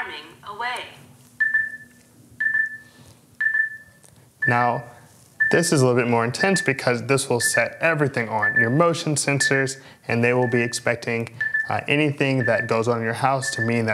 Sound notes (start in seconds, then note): 3.4 beeping